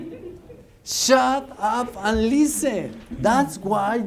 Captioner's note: laughter